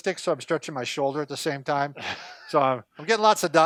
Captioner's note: laughing